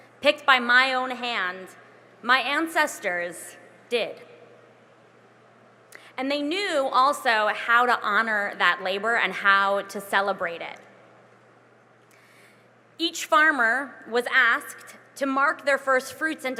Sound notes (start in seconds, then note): none